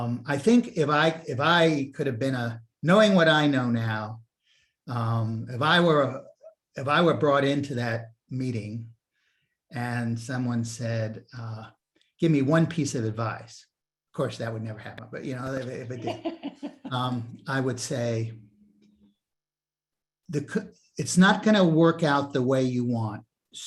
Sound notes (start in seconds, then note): 15.7 laughs